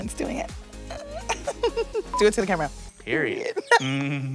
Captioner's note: chuckling